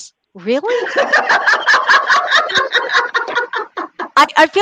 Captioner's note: laughs